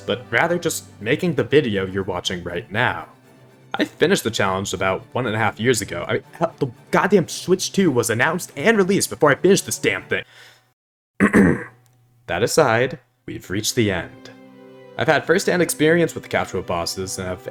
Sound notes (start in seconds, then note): 11.2 ahem